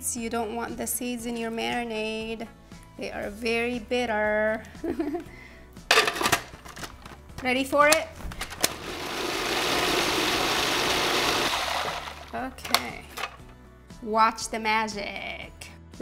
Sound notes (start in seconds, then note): 5.5 laughs; 8.6 food processor whirring